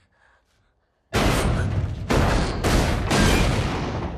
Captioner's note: pounding